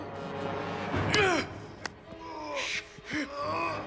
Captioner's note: Dalton grunts; both grunting